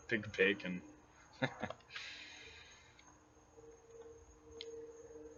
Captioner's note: chuckles